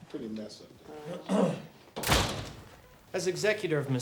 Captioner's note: attorney clears throat